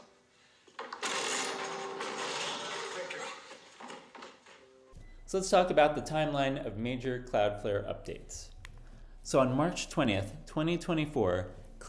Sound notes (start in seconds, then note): 1.0 WHOMP!!! / Door Falling